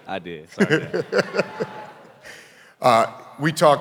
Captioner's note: laughing